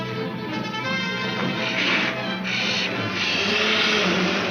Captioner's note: car engine revs